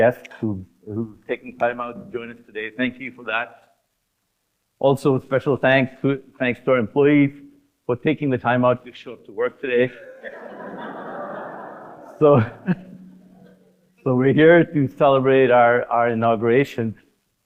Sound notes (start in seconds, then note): 10.0 audience laughing